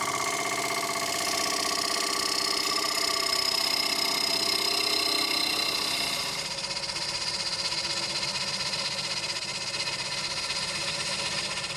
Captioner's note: gouge scraping on the wood